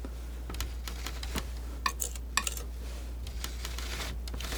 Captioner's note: scratching